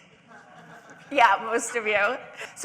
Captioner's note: audience laughing